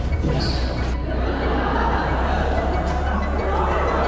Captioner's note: laughter